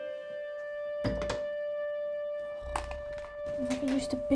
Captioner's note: somber music; door clicks